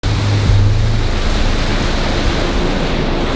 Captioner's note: motor revs